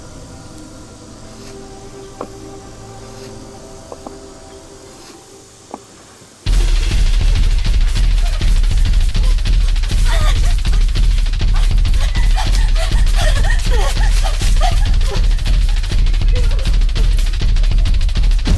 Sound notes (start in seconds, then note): 6.7 Martha gasping; 6.7 intense music; 11.5 Martha gasping